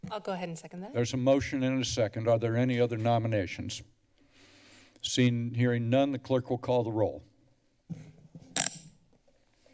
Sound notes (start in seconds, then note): 8.6 mic squeaks